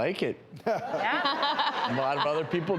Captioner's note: laughing